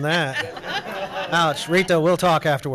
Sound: everyone laughs

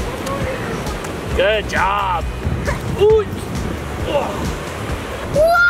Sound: grunting

